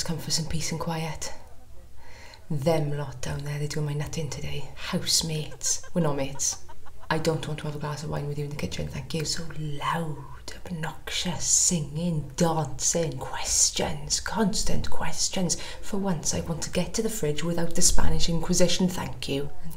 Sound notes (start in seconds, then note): 0.1 chatter from another room; 5.0 laughter